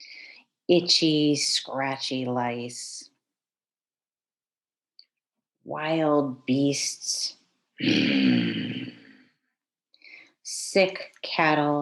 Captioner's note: growl